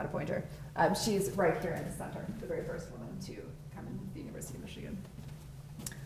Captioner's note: faintly speaking